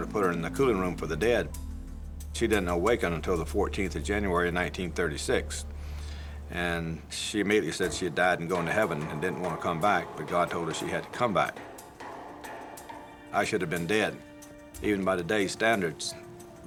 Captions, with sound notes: to put her in the cooling room for the dead. She didn't awaken until the 14th of January, 1936. And she immediately said she had died and gone to heaven and didn't wanna come back, but God told her she had to come back. [rubber mallet thudding] [metal clanging] I should have been dead. Even by today's standards,